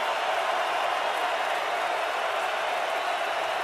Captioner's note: crowd cheering